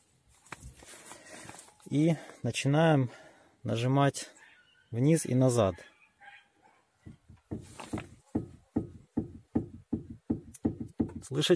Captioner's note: a knock is heard